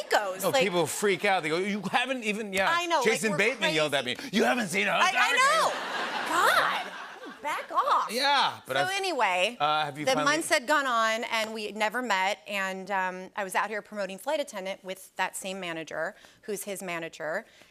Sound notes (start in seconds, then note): 5.5 laughter